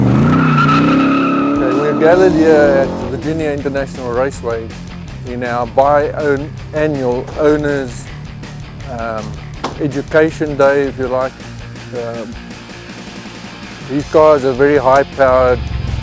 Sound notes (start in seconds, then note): 0.5 tires screeching